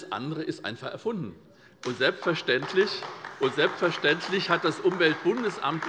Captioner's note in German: Beifall SPD und vereinzelt DIE LINKE